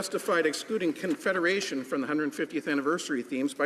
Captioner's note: some Applause